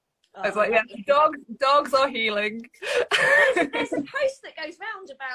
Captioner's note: laughs